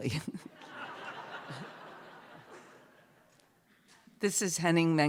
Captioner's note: laughter